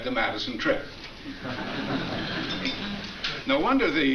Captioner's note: audience laughs